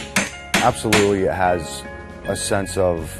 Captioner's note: hammer pounding